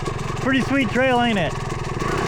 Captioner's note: engine roaring